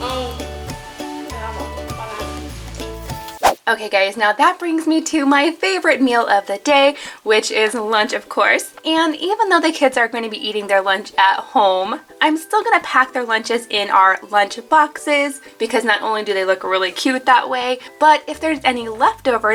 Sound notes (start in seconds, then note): 2.5 air whooshing